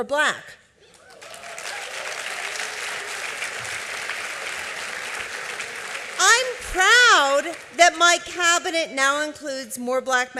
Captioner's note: applause